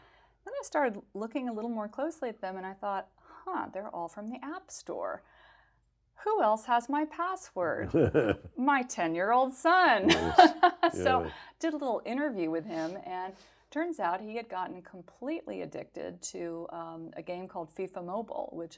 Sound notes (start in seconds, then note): 7.8 laughs; 10.3 laughs